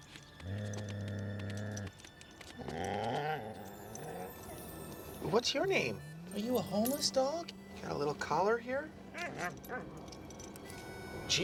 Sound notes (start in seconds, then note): 2.5 growling; 9.0 whimpers